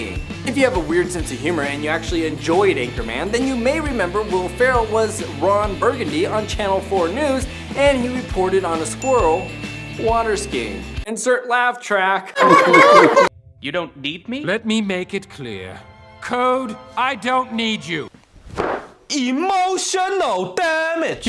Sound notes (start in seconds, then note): 12.3 weird laughing